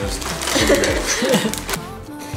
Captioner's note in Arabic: تضحك; موسيقى إيقاعية ناعمة